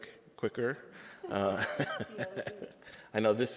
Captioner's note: laughs